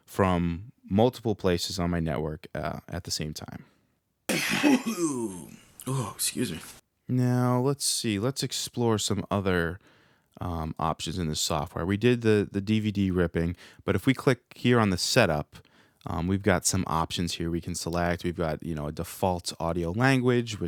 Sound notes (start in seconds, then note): 4.3 achew!!